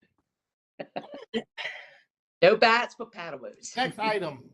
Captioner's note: laughter